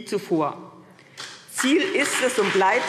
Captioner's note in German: Beifall CDU und BÜNDNIS 90/DIE GRÜNEN